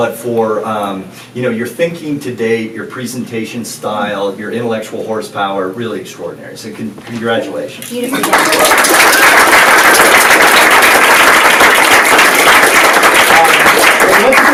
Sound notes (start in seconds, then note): 8.0 audience applauds